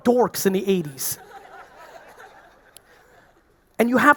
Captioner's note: audience laughing